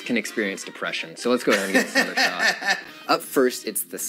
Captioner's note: laughs